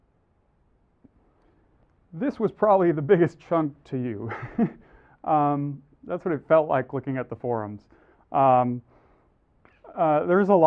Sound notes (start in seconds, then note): 4.2 laugh